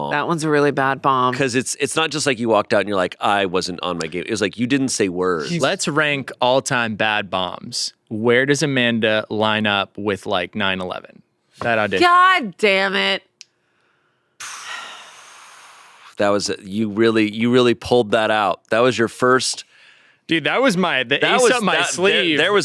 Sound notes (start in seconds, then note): 14.4 exhales; 14.4 sighs